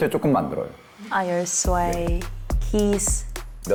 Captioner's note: speaking in English